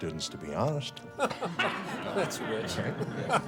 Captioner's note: faculty laughs